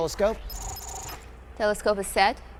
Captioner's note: system whirring